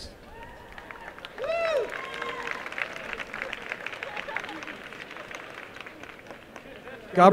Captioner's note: applause